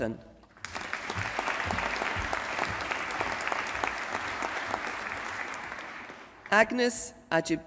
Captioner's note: applause